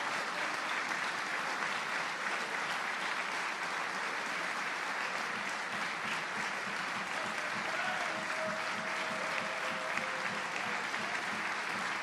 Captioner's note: applause